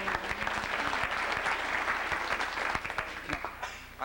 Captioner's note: applause